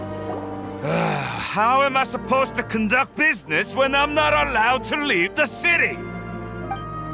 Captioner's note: sigh